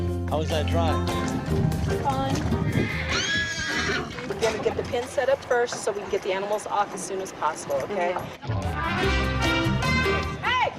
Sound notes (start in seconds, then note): 2.4 horses whinnying